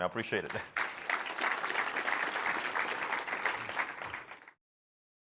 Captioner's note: applause